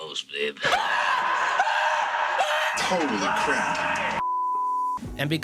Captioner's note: screaming